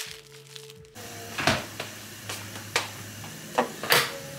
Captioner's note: the delicious boiling sounds